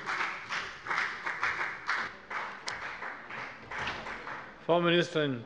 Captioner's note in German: Beifall bei der FDP